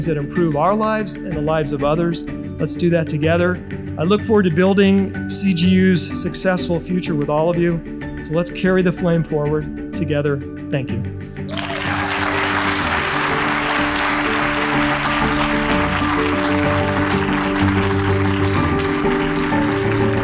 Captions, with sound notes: that improve our lives and the lives of others. Let's do that together. I look forward to building CGU's successful future with all of you. So let's carry the flame forward together. Thank you. (audience claps) (uplifting music)